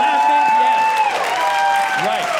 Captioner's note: audience cheering